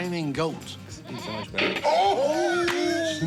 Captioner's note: laughter